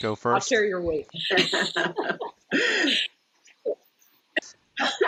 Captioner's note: laughing